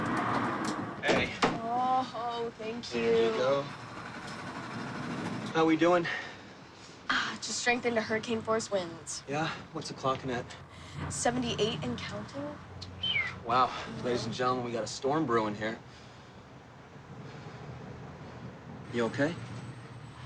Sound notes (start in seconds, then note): 12.9 whistles